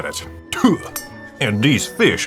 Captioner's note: spits in a southern way